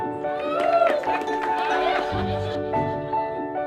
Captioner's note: student laughs loudly; class cheers loudly; mellow piano music continues